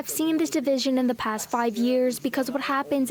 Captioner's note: speaking French